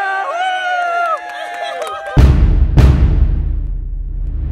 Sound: whooping

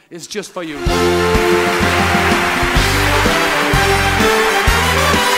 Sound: applause

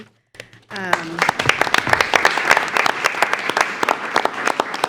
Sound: attendees applauding

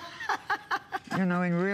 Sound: laughter

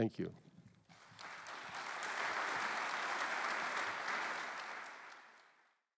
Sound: applause

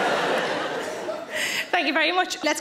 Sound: audience laughs

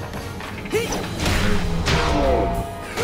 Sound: grunting

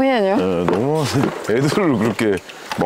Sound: laughing

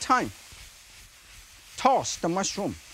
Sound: mushrooms sizzling

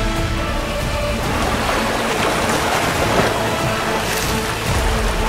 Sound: water gushing

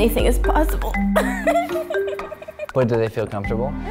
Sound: laughing

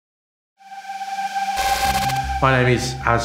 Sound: static hissing

